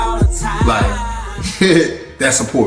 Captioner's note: laughs